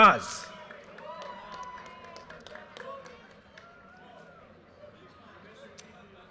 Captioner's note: audience cheers and applause